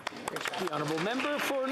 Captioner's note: speaking alternate language